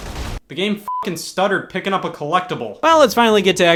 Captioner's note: beep